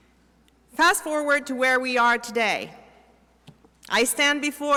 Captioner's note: none